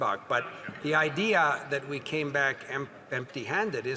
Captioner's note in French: voix de l'interprète